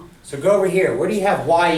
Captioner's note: voiceover